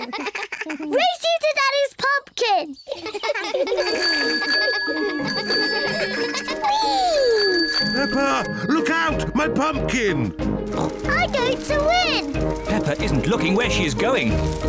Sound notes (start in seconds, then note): 2.9 all laugh; 3.8 bicycle bell ringing; 10.0 snorts